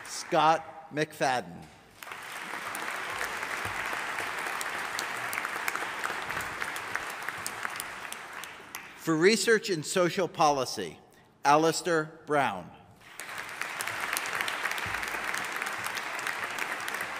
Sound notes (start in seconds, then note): 1.9 audience applauding; 13.0 audience applauding